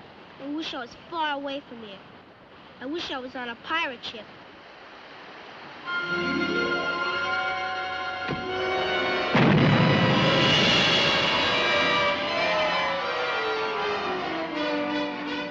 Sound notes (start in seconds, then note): 6.6 dramatic music; 8.4 blasting; 12.2 dramatic music